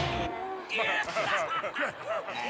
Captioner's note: disappointed groans; laughing